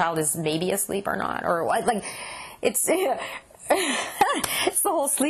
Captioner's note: laughs